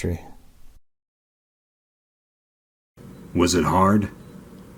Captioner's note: silence